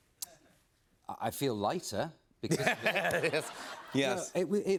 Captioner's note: laughter